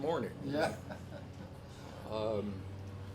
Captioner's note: laughs